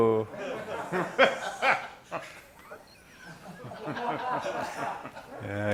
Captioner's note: laughter